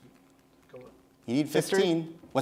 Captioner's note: whispering